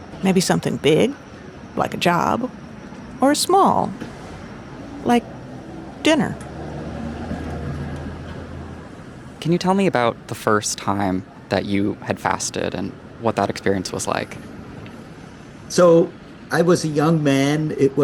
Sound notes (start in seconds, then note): 6.9 traffic noises